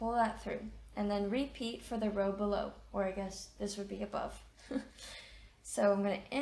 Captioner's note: chuckles